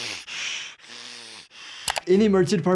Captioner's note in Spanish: Brian inhala